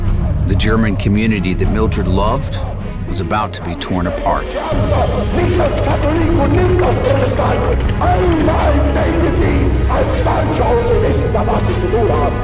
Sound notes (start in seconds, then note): 4.5 harsh German voices